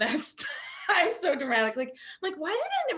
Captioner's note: laughing